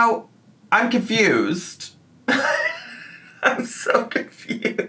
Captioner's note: laughs